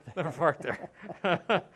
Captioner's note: laughter